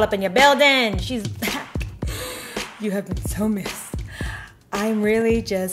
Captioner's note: gasps